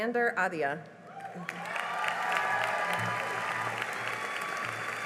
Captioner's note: cheering and applause